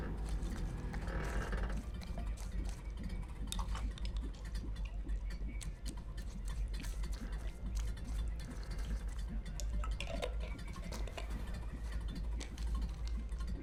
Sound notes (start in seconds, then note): 0.6 brushing liquid